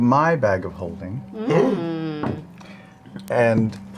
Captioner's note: gasps